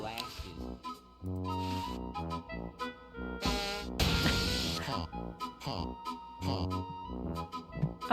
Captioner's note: cartoonish music; creepy clown laugh; honk; thwack